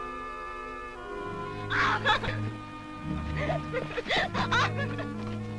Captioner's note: laughing